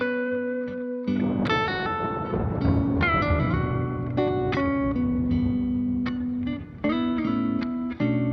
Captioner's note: rumbles of thunder